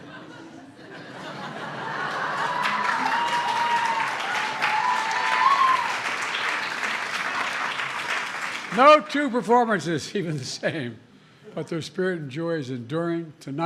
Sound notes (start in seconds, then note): 0.0 laughter; 5.4 applause